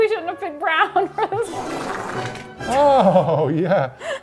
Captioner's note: laughing; comical farting